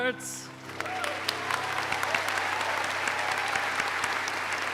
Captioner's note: applause